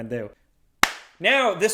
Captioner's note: clap